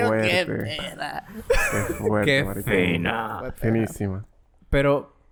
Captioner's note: laughs